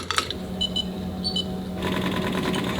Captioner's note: scoop tapping; machine beeping; machine whirring